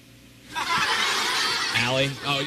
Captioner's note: laughter